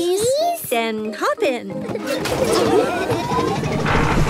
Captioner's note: laughing